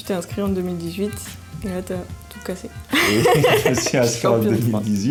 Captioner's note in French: Rires